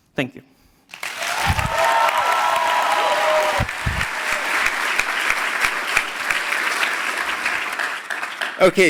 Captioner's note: applause